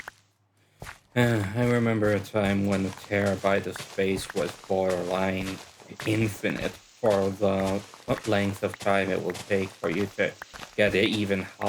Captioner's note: sigh